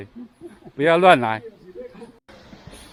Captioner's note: 哈哈